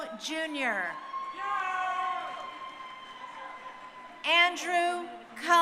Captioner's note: crowd cheering